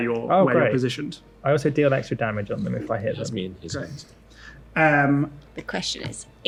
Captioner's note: mutters